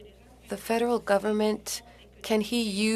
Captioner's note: speaking French